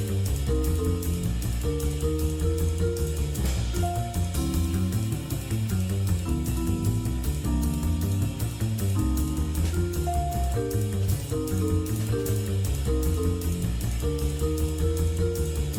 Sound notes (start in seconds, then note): none